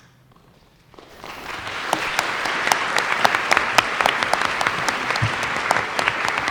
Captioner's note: applause